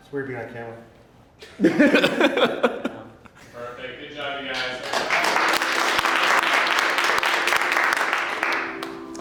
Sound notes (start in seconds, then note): 4.5 applause